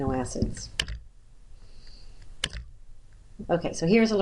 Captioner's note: clicking